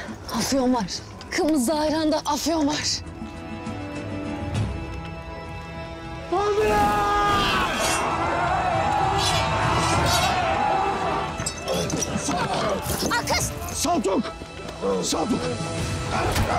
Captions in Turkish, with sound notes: Afyon var, kımızlı ayranda afyon var! [Bağırma sesleri] Akkız! Saltuk, Saltuk!